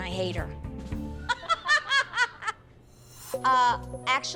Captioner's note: laughing